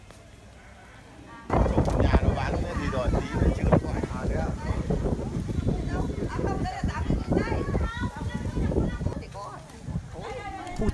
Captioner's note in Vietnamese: Tiếng ồn ào trong chợ